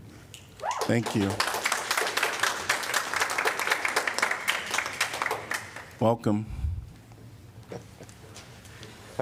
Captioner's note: applause